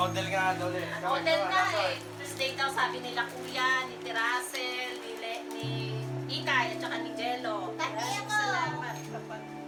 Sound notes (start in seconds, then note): 0.1 speaks Filipino